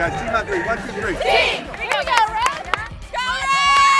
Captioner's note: in Unison